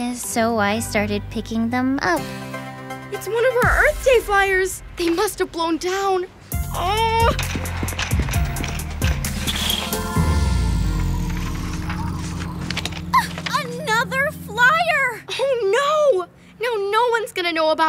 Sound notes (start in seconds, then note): 10.0 wind howling